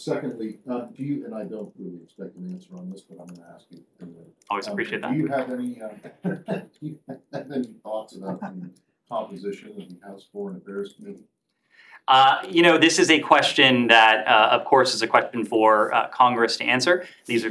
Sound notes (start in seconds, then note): 8.6 laughter